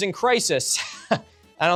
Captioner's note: laughs